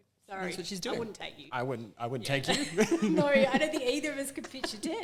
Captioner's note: both laugh